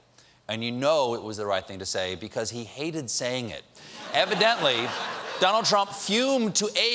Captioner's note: laughter